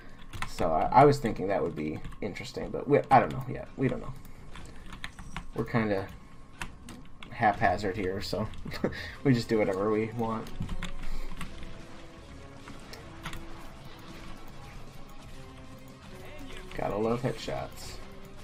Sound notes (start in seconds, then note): 8.8 laughs